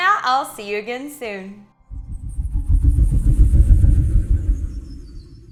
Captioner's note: air whooshing